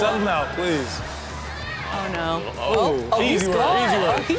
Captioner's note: background chatter